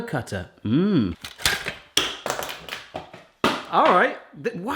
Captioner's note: he hums; plastic clattering